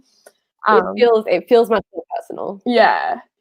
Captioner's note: murmurs